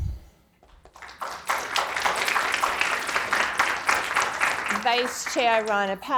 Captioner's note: audience applauding